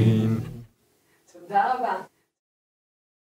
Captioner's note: Hebrew